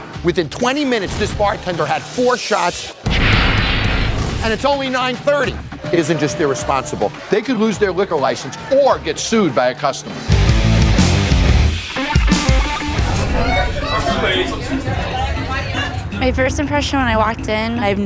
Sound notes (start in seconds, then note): 3.0 dramatic percussion; 9.9 rock music; 13.0 chatter